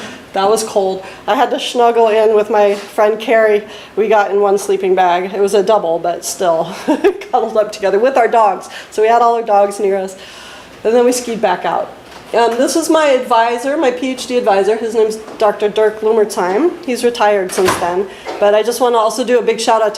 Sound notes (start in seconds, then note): 6.7 laughs